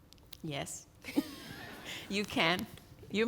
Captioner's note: laughing